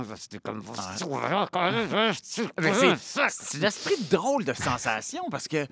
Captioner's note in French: Il grommelle